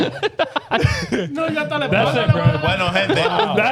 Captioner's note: speaking In Foreign Language